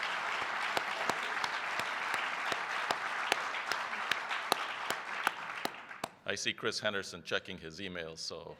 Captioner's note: applause